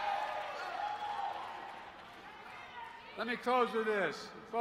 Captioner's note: applause